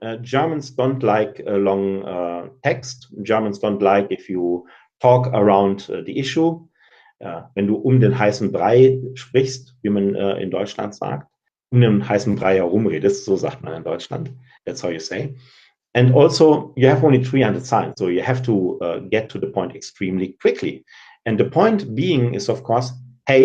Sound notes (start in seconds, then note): 9.0 speaking German